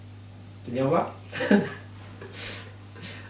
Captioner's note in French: Rire